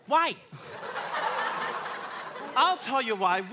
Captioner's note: audience laughing